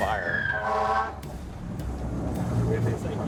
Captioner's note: horns